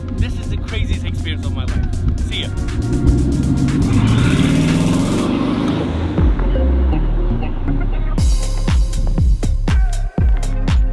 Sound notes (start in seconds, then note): 3.4 engine revving; 6.4 upbeat music